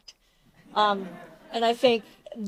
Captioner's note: audience laughs